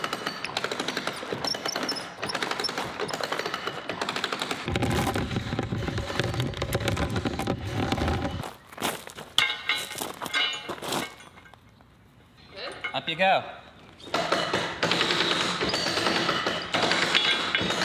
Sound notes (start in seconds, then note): 0.0 wheel squeaks; 0.0 chain rattling continues